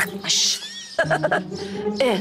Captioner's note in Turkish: Gülme sesi